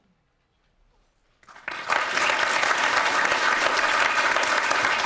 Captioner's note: applause